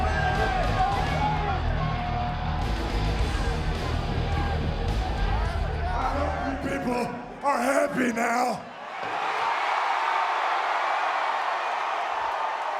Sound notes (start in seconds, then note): 9.0 audience cheers